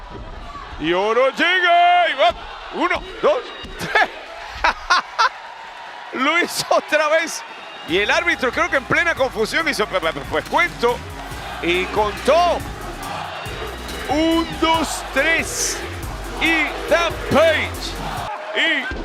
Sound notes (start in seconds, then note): 3.8 laugh